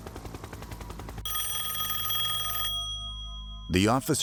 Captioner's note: phone rings